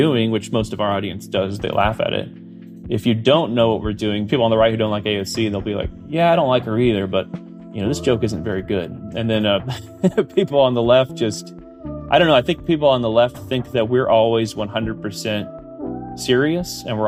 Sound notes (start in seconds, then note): 9.6 laughs